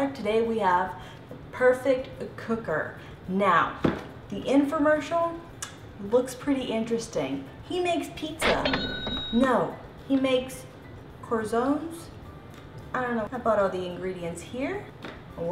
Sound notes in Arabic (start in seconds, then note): 8.4 نقدا رنين جرس تسجيل